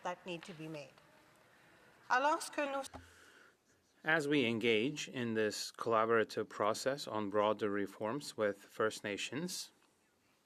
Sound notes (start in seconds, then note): 5.4 speaking French